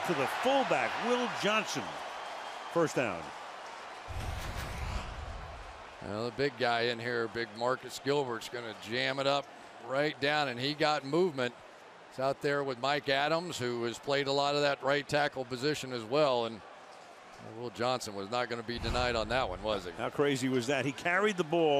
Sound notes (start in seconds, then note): 4.1 swoosh